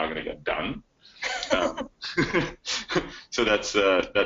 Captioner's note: chuckles